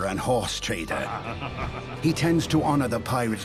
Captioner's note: laughing